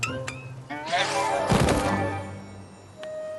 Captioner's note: thud